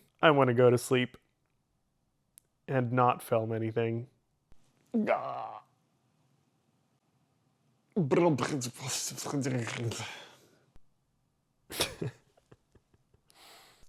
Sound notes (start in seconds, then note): 11.7 chuckles